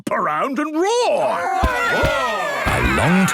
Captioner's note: all roaring